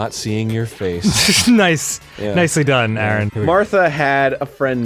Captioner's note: snickers